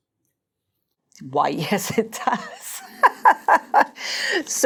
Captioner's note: laughs